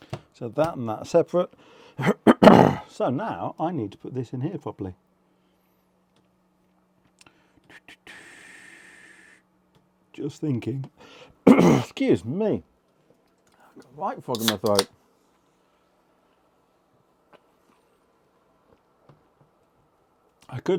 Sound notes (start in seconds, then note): 7.2 coughs